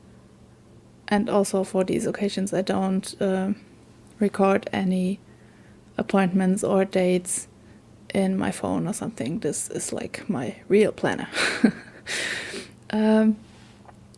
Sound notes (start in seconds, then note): 11.4 laughs